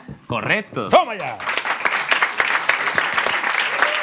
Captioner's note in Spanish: Aplausos